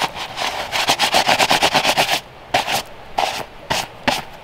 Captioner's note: gloves rustling